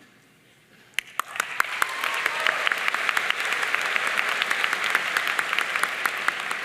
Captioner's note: audience cheering and applauding